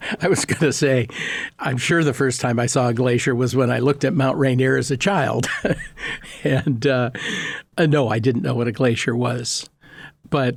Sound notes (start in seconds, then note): 0.0 both laughing; 5.9 laughing